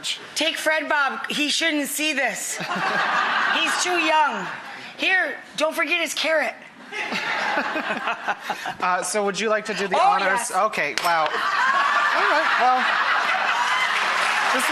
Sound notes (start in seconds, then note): 2.6 audience laughter; 11.3 audience applause